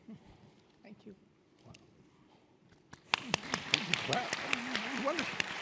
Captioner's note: audience applause